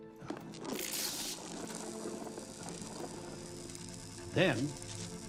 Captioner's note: electricity crackling